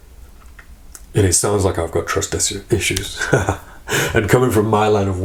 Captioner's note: laughs